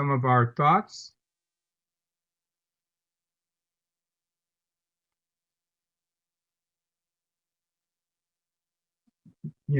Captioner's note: silence